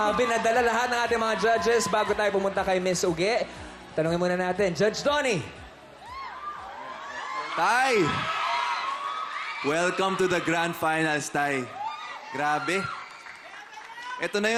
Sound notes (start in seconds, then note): 6.0 crowd gushing